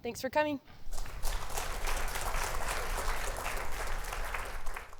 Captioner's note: applause